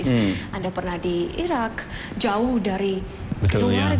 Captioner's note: non-english speech